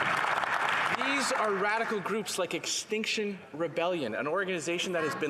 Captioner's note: some Applause